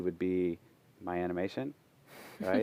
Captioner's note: deep breath